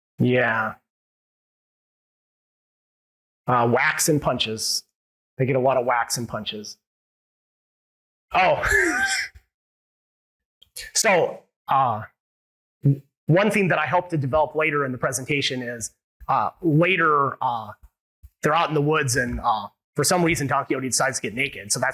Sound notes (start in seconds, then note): 9.0 laughs